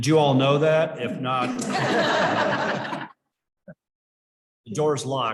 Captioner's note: chuckling